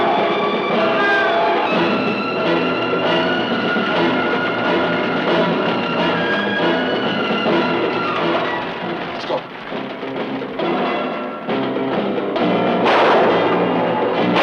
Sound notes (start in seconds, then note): 8.5 gun fires; 12.4 guns fire